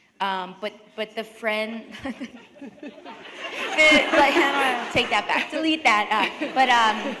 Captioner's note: laughter